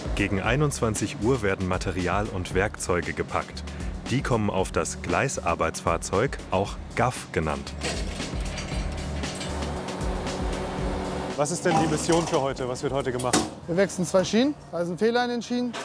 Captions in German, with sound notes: Gegen 21 Uhr werden Material und Werkzeuge gepackt. Die kommen auf das Gleisarbeitsfahrzeug, auch GAF genannt. (Scheppern, Dröhnen) Was ist die Mission für heute? Wir wechseln zwei Schienen mit Fehlern.